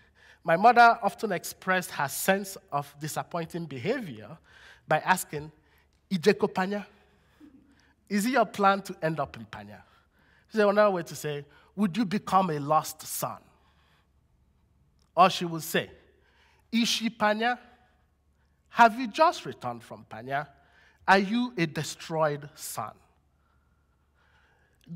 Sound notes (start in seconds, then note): 6.1 non-english; 17.0 non-english